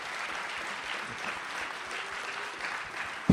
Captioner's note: audience applauds